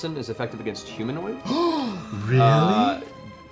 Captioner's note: gasps